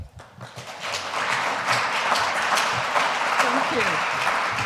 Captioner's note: audience applauds